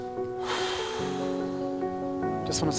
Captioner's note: sands rubbing together; sighs